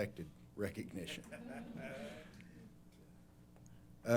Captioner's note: laughter